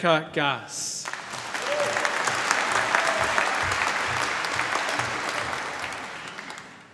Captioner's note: applause